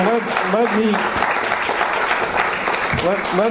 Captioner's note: applause ends